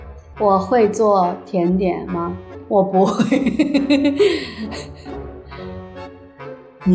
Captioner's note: laughter